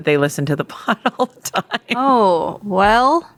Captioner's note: laughs